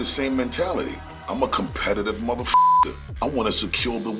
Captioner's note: beep